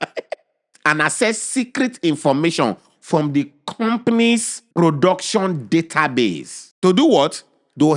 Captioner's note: laughing